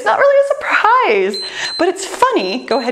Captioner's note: timer beeps